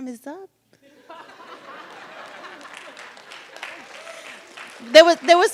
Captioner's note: audience laughs